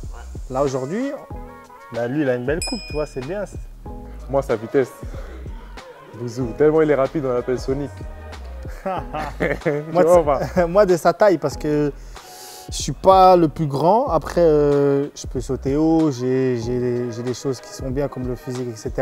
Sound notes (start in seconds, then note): 8.7 laughs